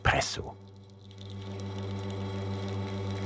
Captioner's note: quiet humming